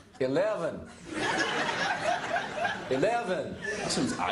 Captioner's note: laughter